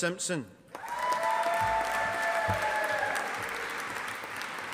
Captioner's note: audience applauding